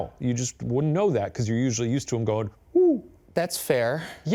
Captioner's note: hooting